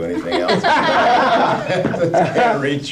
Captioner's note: laughing